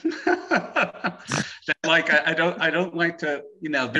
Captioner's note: laughing